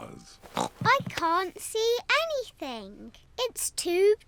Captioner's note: oinks